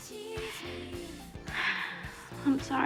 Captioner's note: sighs